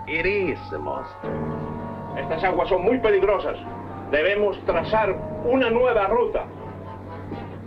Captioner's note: General Tostada speaking in Spanish